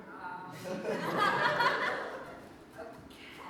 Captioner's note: audience laughs